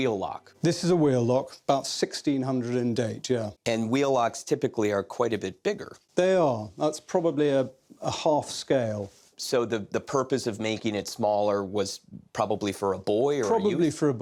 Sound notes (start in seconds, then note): none